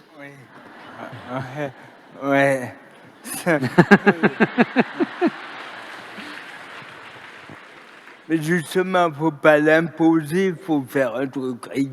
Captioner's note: laughter